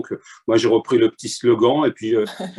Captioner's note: none